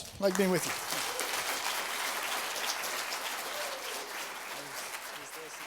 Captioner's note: applause